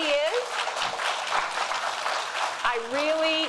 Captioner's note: audience applauding; applauding